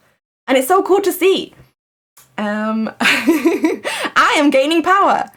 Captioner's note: laughs